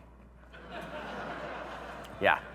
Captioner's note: audience laughing